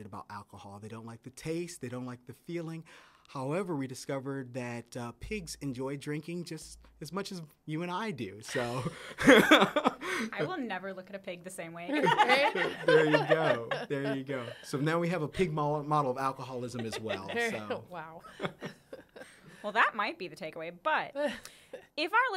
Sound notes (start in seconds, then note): 8.6 laughs; 11.8 laughter